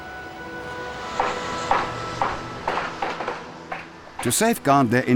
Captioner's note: hammers thudding